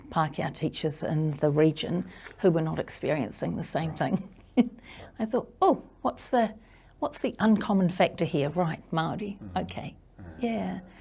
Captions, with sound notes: Pākehā teachers in the region who were not experiencing the same thing. (chuckles) I thought, "Oh, what's the uncommon factor here? "Right, Māori. "Okay, yeah."